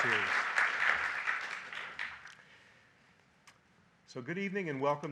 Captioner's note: audience applauding